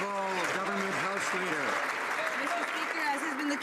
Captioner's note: some Applause